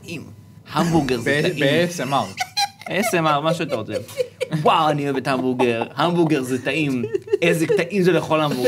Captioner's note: snickers